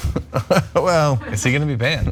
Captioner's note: laugh